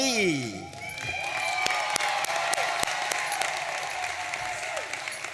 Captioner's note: audience cheering and applauding